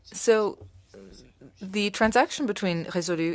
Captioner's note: speaking French